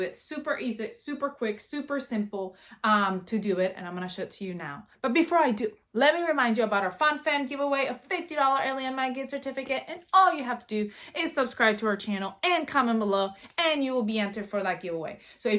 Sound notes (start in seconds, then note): none